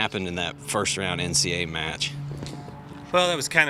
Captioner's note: plane engine roars